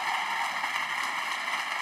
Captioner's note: applause